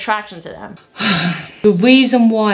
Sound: sigh

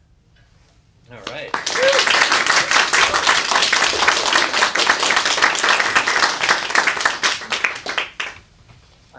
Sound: applause

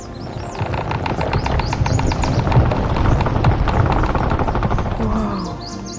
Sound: wood creaking

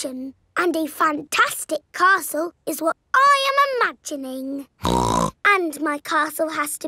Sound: snorts

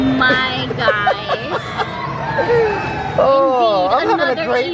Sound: laughs

